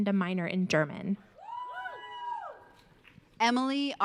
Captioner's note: audience cheering